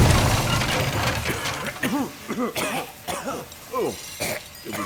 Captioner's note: all onlookers cough as the dust and rubble settles